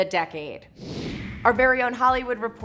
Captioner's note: whooshing